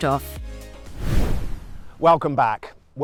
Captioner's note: air whooshes